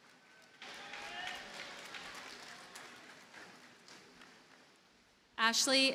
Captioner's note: audience cheers and applauds